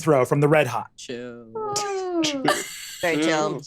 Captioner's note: laughs